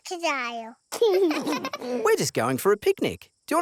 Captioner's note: both laugh